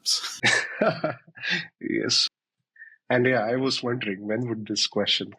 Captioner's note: laughs